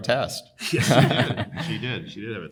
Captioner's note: panelists laughing